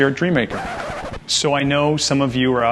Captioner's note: record scratch